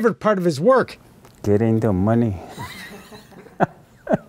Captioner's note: laughs